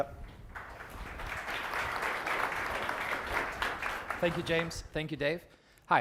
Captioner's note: applause